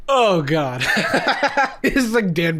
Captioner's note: laughing